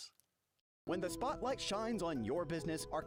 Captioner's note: voiceover